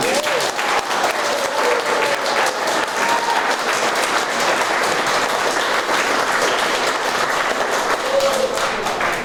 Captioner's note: applause